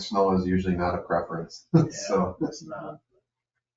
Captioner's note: laughs